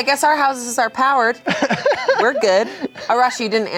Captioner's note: laughs